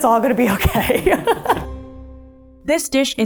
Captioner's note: both laughing